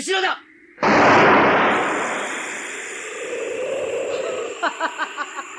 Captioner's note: SFX: lightning strikes